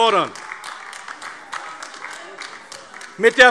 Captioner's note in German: Beifall AfD